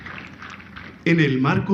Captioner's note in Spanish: aplausos